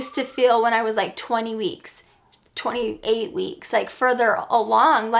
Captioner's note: none